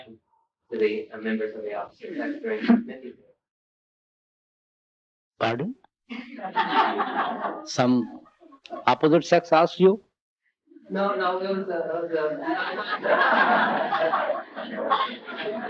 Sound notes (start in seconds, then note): 6.1 laughter; 12.3 laughter